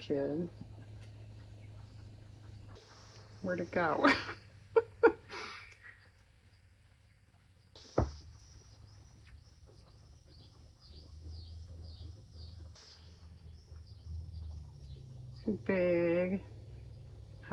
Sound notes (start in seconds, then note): 9.9 laughs